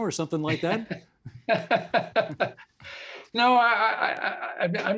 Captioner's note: laughing